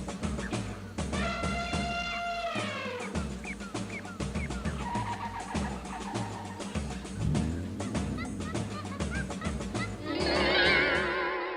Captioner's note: tribal percussion, birds chirping, monkeys chattering; elephant trumpeting, percussion and birds continue